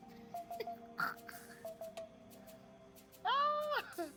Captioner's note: laughing